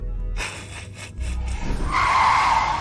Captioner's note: snickers